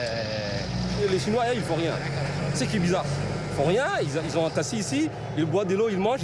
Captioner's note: speaking foreign language